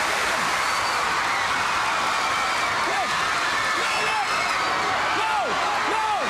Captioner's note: crowd cheering